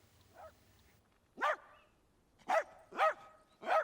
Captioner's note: dog barking